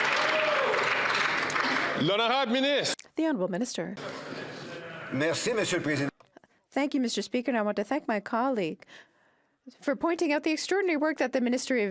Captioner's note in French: applaudissements